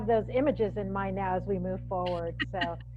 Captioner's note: laughs